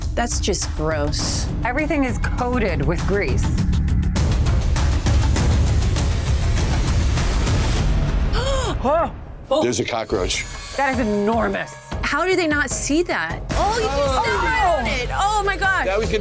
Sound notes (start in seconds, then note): 8.4 gasps